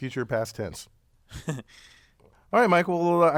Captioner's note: laugh